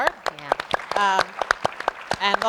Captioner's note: audience and panelists applauding